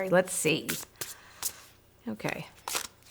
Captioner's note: cards shuffling